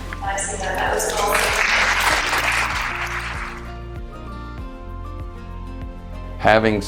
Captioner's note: gentle music; applause